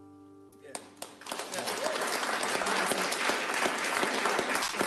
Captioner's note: audience applauds